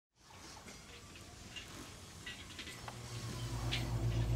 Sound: machines whirring

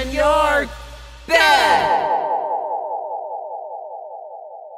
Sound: echoes

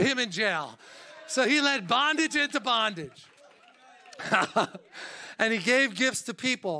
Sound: laughs

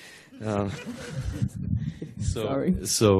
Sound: laughter

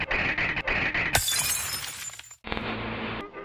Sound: teeth shattering

